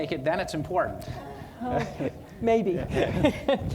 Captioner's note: audience laughing